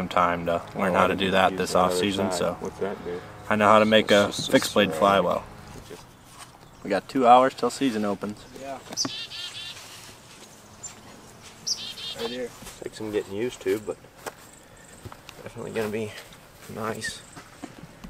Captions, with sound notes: time to learn how to do that this offseason so I know how to make a fixed blade fly well. We got two hours till season opens. [Bird singing] Take some getting used to but, definitely gonna be nice.